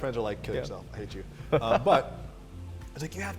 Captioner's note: laughs